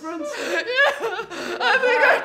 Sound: crying

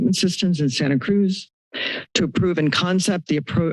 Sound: inhales

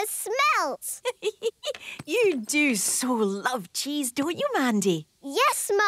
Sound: giggling

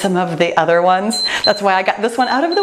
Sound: timer beeps

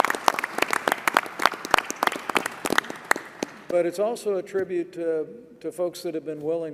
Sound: applause

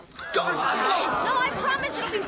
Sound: <i>all yelling

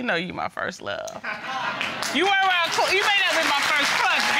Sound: audience applauding

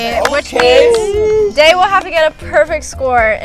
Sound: group exclaiming

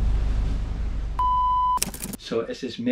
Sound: beep

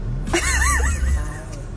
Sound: laughing

